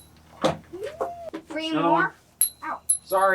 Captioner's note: with lisp